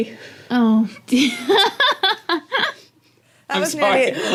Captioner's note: laugh